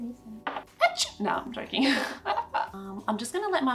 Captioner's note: laughs